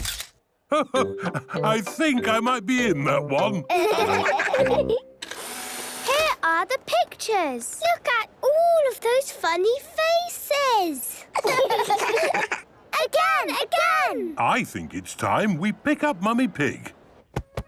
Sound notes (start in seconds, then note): 0.0 camera clicks; 5.2 whirring; 11.2 children laughing